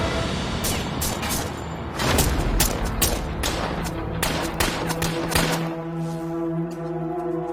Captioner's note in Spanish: Disparos